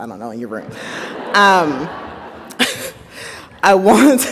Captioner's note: audience laughs; laughs